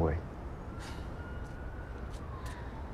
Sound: exhales sharply

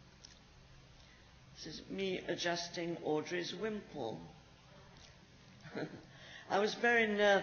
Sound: chuckles

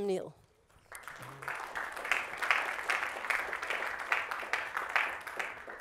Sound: students applauding

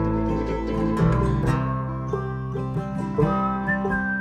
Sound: whistling

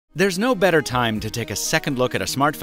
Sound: voiceover

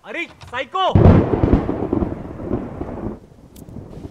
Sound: thunder rumbling

